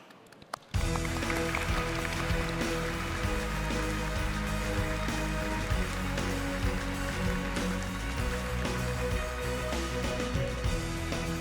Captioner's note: applause